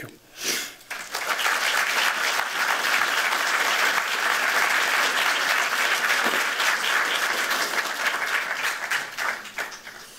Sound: applause

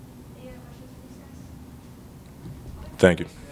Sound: murmur

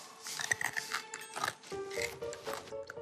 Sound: chewing

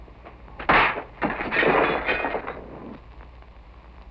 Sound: clanging

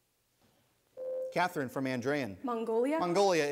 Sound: ding

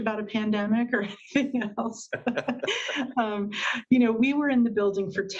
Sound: laughs

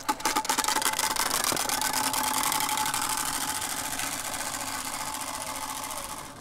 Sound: bike spokes sound

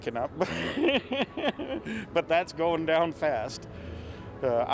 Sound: laughs

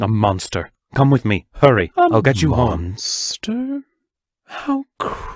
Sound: Using Mr. Siofra’s voice

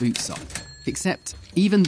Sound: ding

